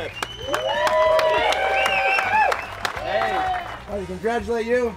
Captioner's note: applause